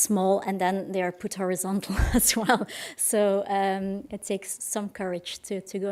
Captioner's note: laughs